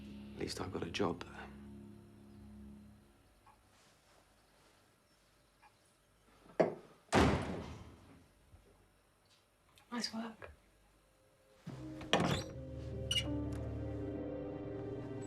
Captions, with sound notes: At least I've got a job. (loud slamming) - Nice work. (slow paced music)